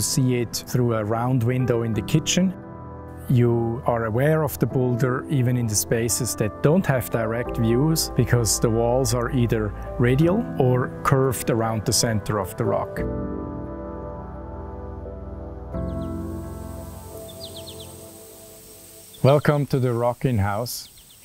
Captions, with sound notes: You see it through a round window in the kitchen. You are aware of the boulder even in the spaces that don't have direct views, because the walls are either radial or curved around the center of the rock. [birds chirping] [gentle serene music] Welcome to the rocking house